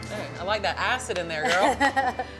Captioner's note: laughing